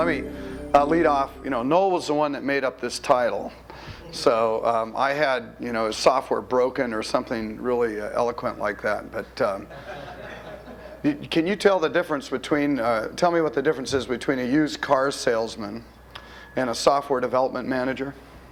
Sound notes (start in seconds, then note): 9.7 audience laughter